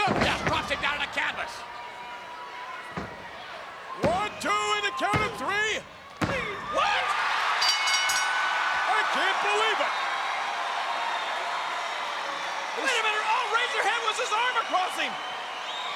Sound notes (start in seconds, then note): 7.6 bell dinging; 9.9 crowd cheering